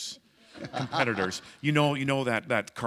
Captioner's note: chuckle